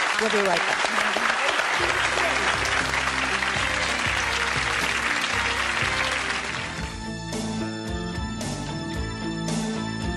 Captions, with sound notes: - We'll be right back. (audience applauding) (upbeat music) (dramatic music)